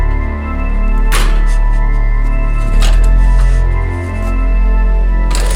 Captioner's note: Harvey shakily gasping